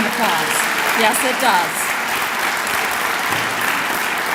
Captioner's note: clapping